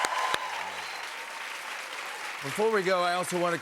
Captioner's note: cheers and applause